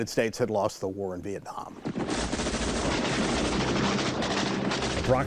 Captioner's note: guns firing